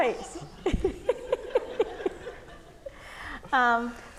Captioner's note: laughing